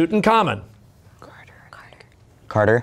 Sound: whispering

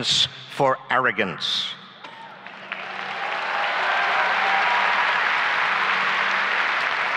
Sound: applause and cheering

